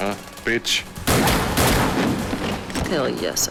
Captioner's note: gun fires